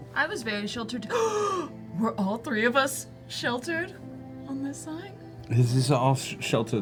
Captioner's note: gasps